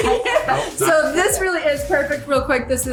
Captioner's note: laughing